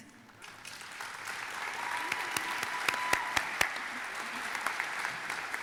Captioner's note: audience applauding and cheering